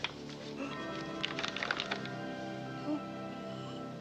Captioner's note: Nina gasps